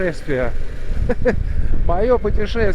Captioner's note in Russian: смех